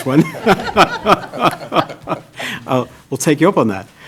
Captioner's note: laughing